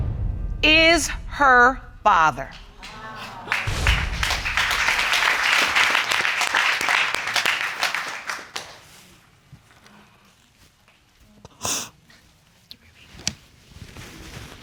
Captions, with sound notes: is her father. (AUDIENCE APPLAUDING) (SNIFFLES)